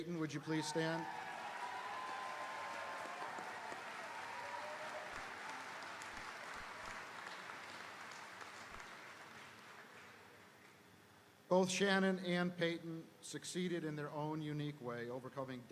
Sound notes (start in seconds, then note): 0.4 audience cheering; 0.5 audience applauding